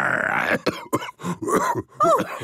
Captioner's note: growls; cough